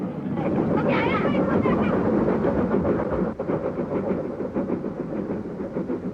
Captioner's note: train passes